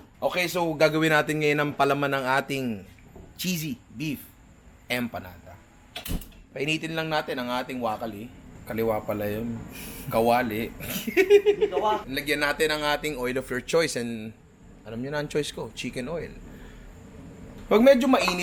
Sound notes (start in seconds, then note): 10.8 laughter